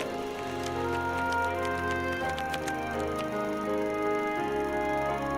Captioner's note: movie projector running